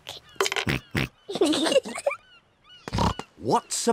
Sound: oinks; both giggle

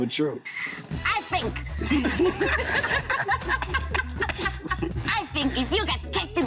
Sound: all laughing

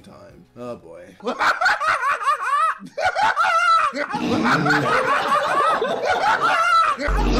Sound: KSI Laughing - headphone warning

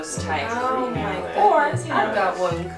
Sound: indistinguishable sounds of approval

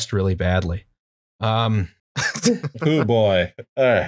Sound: laughter

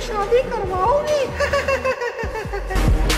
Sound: laughing

